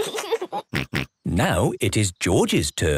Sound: laughs

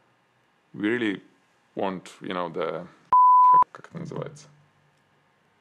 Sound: beep

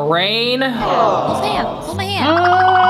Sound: crowd awing

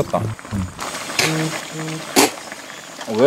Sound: spitting

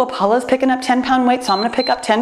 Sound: timer beeps

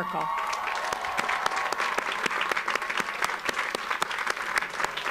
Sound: audience applauds

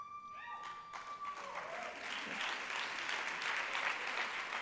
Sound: applause

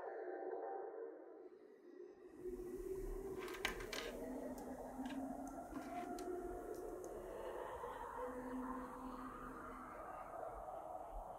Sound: resonant echoes

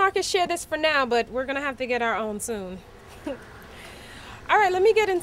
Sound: chuckles

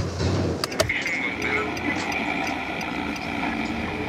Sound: car turn signal

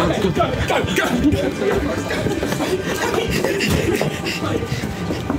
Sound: footsteps, giggling, shouting

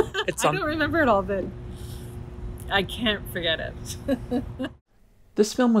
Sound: laughter

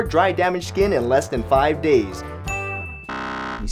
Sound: tink

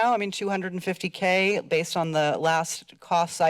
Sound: none

